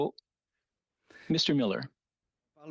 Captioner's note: speaking French